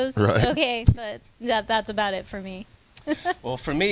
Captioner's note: laughs